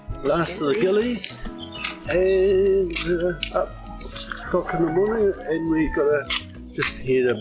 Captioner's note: rooster crows